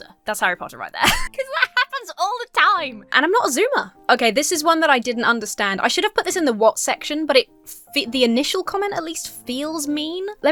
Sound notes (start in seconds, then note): 1.1 wheezes